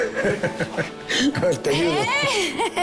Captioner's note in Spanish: Risas